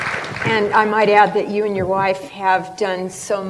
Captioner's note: applause